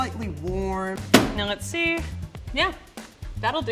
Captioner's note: microwave door slamming